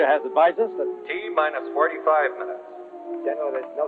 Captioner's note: man on PA